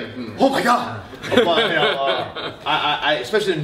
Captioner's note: laughter